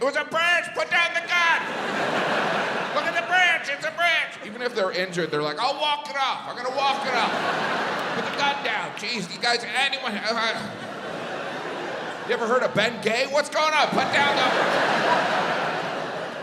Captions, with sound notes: It was a branch, put down the gun. (crowd laughs) Look at the branch, it's a branch." Even if they're injured, they're like, "I'll walk it off, I'm gonna walk it off. Put the gun down, jeez, you guys are (Host pants). You've ever heard of Bengay? What's going on? Put on the..."